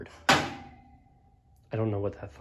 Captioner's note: thunk!!